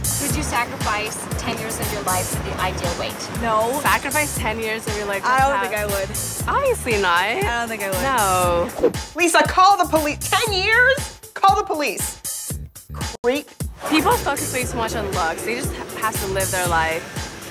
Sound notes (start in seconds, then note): none